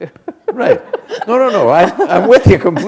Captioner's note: laughter